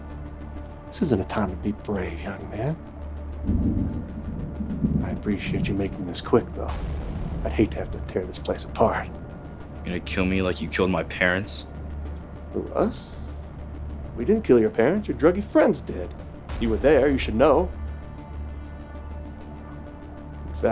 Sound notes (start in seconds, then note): 3.2 thunder rumbling; 3.7 tense music; 18.7 tense music